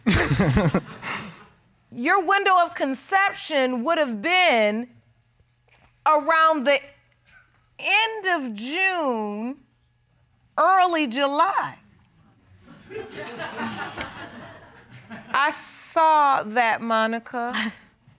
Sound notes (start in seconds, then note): 0.0 chuckles; 12.7 audience laughs; 17.5 chuckling